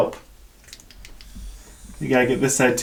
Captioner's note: toothbrush whirring